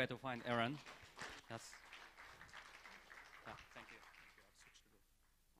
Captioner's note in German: beifall